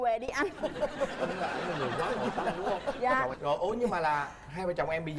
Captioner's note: laughing